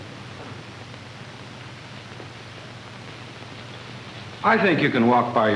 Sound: footsteps

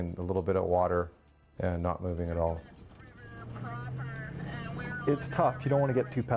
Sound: speaking on radio, unintelligible

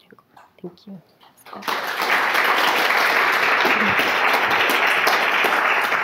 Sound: audience applauding

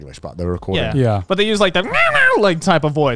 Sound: squawks

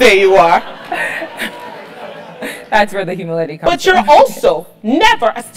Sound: laugh

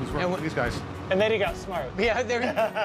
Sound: laughter

